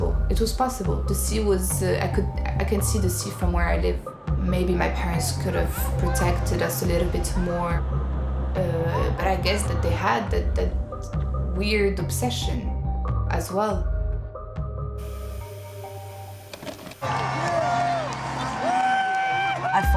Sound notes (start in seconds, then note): 16.4 VHS player clicks; 17.0 crowd cheering